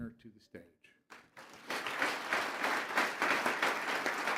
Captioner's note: applause